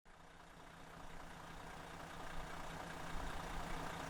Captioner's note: engine rumbling